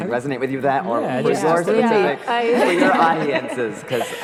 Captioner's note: laughter